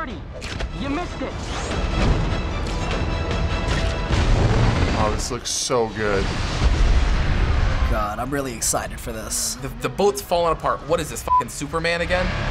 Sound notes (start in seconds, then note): 1.6 epic music; 6.1 boom